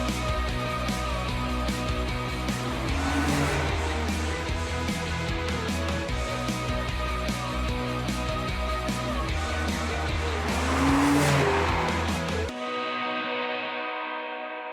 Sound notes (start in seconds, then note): 0.0 upbeat rock music; 3.0 car engines rumbling; 6.3 upbeat rock music; 10.7 car engine rumbling; 10.7 upbeat rock music continues